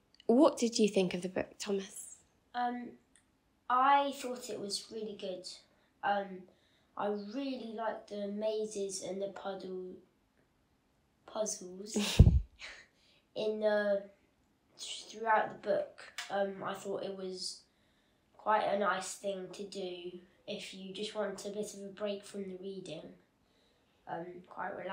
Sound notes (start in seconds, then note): 12.0 laughs